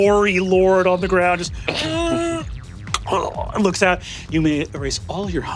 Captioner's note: wheezes and gurgles